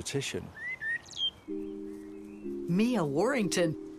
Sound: bird singing

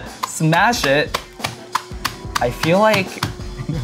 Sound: Cheetos crunching

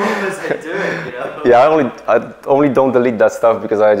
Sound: laughs

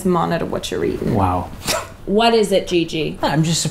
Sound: snorts

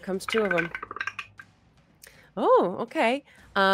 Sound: dice clatter

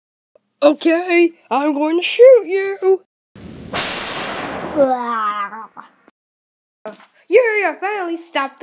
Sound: gun shot

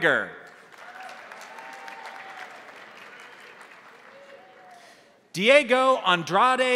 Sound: crowd applauding; crowd cheering

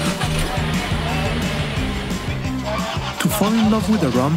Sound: jeep engine groaning

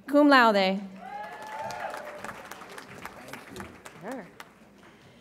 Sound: audience applauds

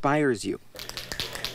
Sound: nats of spray paint

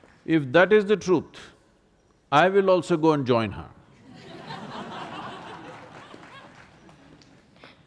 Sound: laughter

